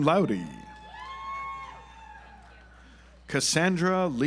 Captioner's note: audience applauds